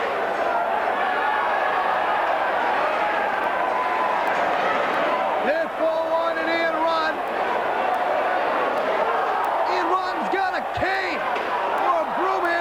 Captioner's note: crowd chatter